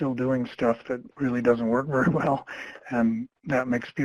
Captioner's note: chuckles